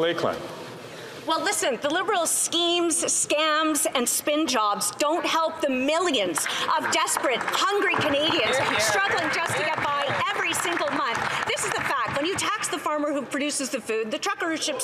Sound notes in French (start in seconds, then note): 5.1 voix de l'interprète